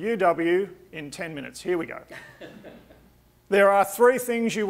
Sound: audience laughing

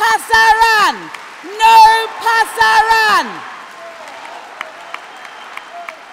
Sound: applause; cheering

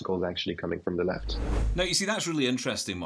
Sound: air whooshing

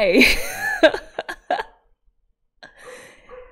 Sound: laughs

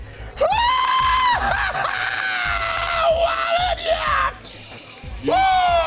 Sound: exhales; screams in agony; shushes

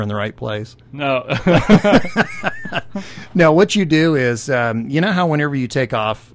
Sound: laugh

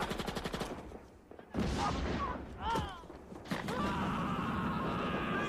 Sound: screaming

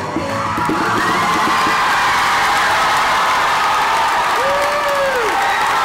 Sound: overwhelming audience reaction

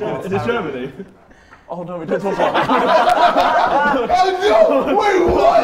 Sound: Sidemen laugh

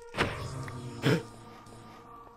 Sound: gasps

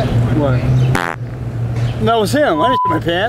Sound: farting

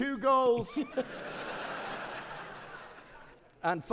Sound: audience laughing

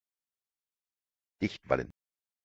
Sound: fast Pronunciation

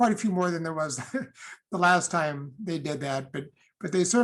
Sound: laughter

